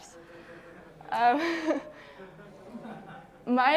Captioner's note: laughing